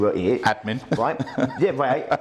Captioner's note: laughs